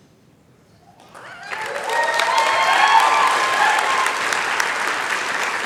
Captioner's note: applause